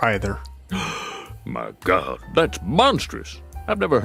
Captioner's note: gasp